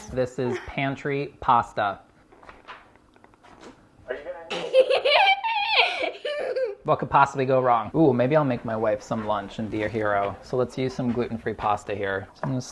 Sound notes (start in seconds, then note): 4.4 boy laughing